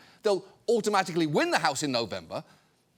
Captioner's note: none